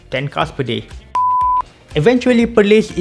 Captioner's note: beep